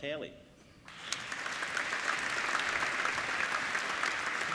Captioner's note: applauding